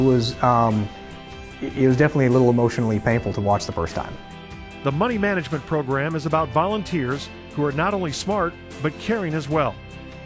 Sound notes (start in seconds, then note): 5.1 voiceover